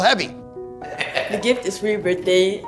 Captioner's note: laughs